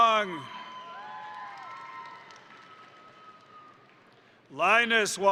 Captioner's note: crowd cheering; crowd applauding